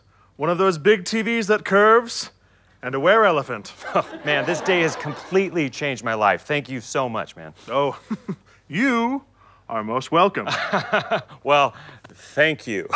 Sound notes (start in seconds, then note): 7.9 chuckle; 10.5 laughing